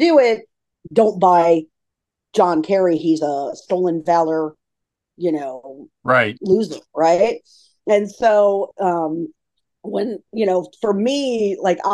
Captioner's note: laughs